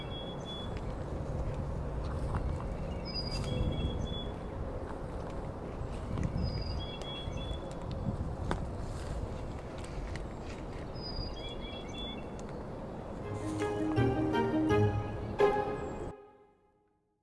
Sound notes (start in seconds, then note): 1.9 wind rustling; 13.2 bright playful music